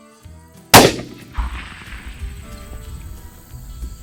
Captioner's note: gunshot